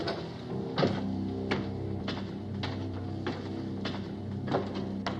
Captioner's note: footsteps, stairs creaking